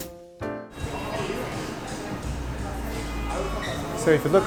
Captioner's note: street sounds